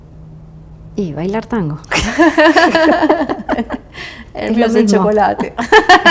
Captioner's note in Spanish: risas